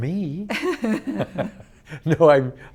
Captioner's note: laughs